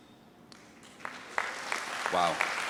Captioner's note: trustees and audience applaud